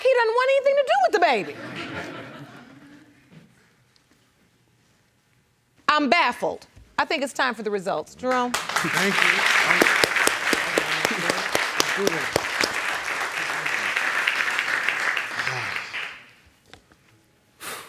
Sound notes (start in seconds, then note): 1.5 audience laughing; 8.4 audience applauding; 16.7 sighs